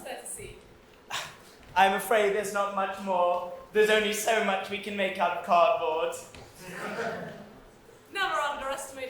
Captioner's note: audience laughs